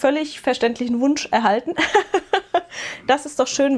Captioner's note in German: gelächter